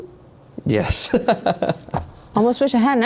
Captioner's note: laughing